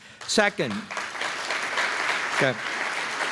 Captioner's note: applause